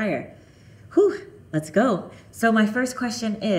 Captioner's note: exhaling